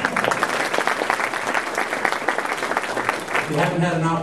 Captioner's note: applause